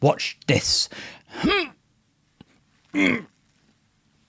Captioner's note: groans